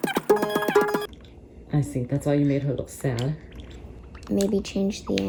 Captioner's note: fast-forward sounds